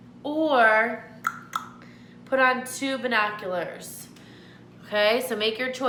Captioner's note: clicks tongue